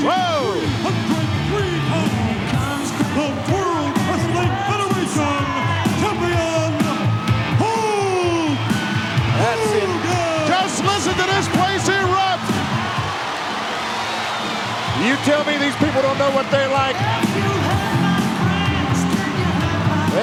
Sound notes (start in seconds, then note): 2.4 upbeat music; 12.8 audience cheering; 17.6 upbeat music